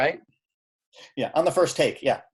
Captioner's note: laughing